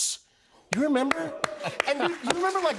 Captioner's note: applause